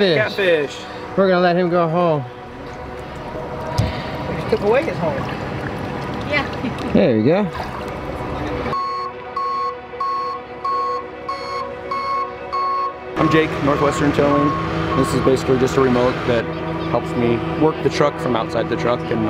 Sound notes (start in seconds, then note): 8.8 tow truck beeping